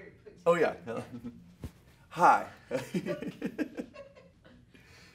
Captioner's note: laughing